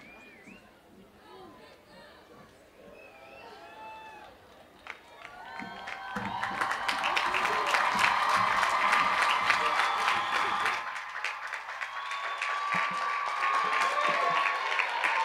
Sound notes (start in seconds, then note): 11.4 cheers and applause